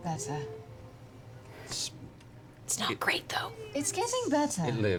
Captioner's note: whispering